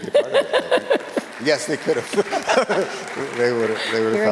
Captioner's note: all laughing